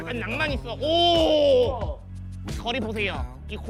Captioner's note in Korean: 감탄